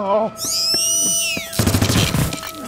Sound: shrieker noises; gunfire

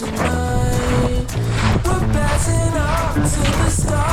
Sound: storm fall

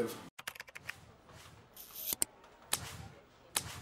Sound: typing

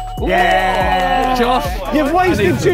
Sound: group cheer

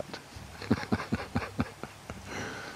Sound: laughing

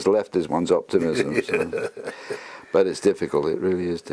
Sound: laugh

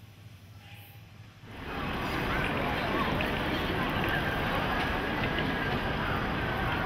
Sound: city sounds

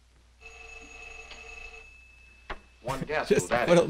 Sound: phone rings

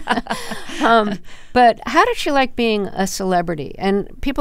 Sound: laughter

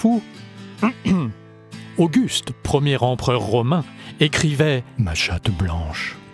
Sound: hem, hem

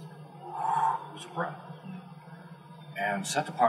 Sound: inhale; exhale

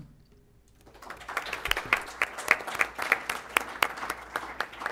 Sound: applause

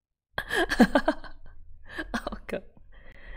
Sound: laughs

